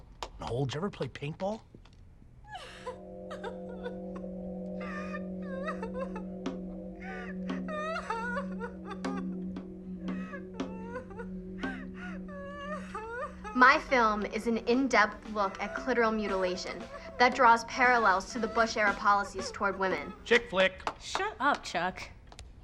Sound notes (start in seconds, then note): 2.0 eerie music; 2.0 woman crying